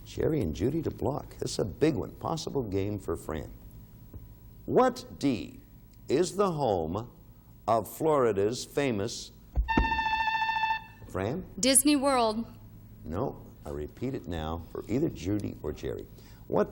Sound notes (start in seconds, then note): 9.6 buzzer beeping